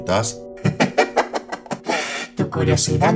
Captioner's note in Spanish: Risa malévola